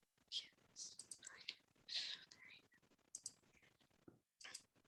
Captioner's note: mouse clicking